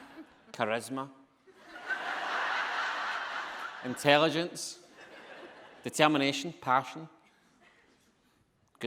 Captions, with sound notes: Charisma. (audience laughing) Intelligence, determination, passion.